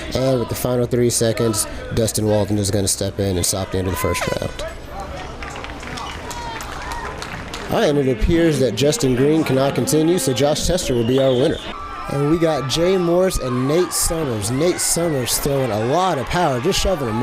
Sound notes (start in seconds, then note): 11.8 fight & crowd noise